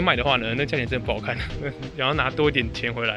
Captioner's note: laugh